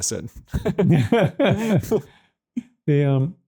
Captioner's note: everyone laughs